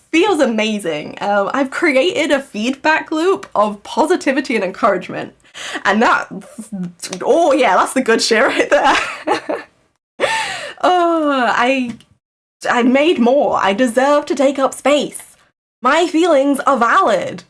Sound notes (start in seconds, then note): 8.7 laughs